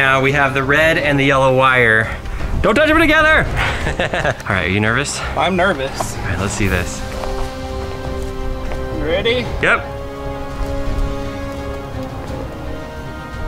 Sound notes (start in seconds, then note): 3.5 laughing; 10.6 suspense music